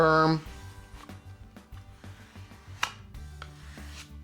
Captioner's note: scraping plastic